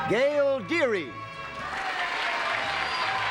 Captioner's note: applause